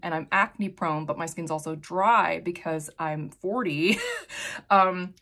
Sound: chuckles

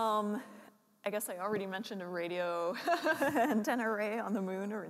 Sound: laughs

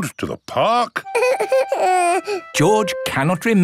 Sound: whimpers

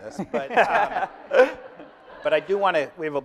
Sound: laughing

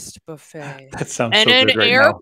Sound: laughs

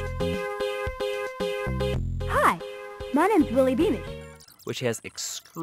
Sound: game Audio

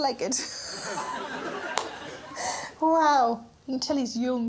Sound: laughs

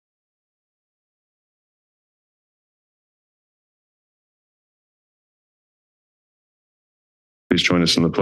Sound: silence

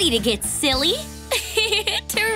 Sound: giggling

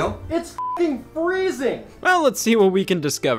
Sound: beep

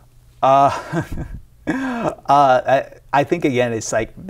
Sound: person chuckling

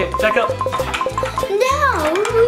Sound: remote beeping

